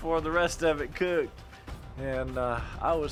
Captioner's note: none